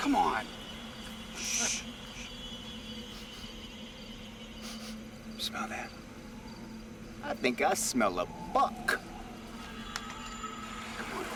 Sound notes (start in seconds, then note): 4.6 sniffing